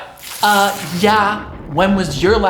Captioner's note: loud ripping